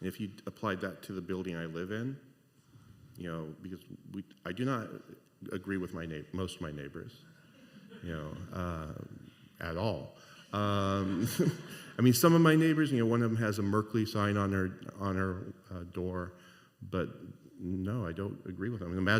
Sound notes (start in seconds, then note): 10.6 laughter